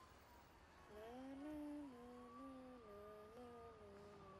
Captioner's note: boy hums